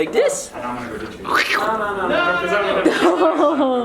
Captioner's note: squishing noise with mouth; laughing